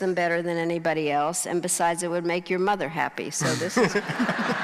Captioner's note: crowd laughing